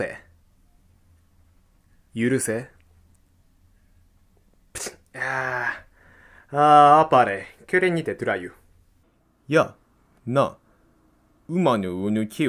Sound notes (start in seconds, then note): 4.6 snap